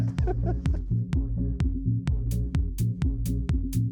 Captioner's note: laughs